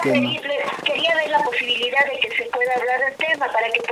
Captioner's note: voice on the phone